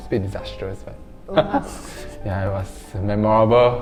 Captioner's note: laughing